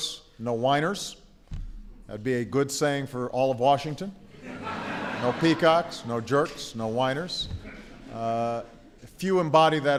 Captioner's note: laughter